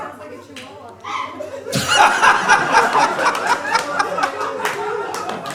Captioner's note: audience laughs